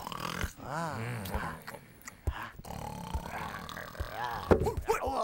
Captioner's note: snoring continues